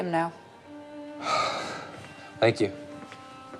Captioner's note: David sighs